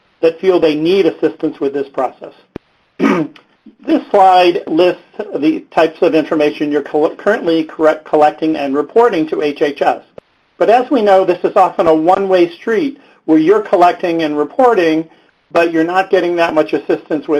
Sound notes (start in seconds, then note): 3.0 clears throat